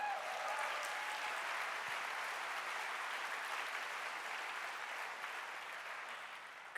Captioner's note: applause